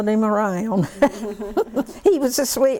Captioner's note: laughter